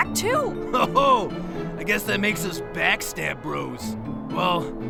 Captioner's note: chuckles